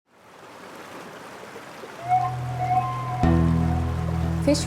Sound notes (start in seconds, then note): 0.1 water flowing; 2.1 tense music